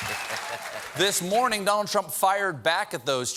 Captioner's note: laughter